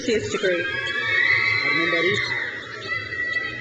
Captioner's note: crowd cheers